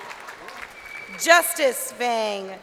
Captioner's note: crowd cheering